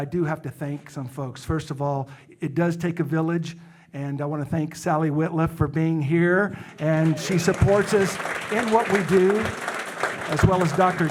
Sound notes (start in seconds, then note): 6.8 audience applauding